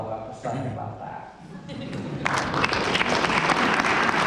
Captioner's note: applause